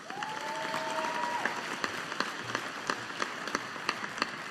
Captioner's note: audience applauding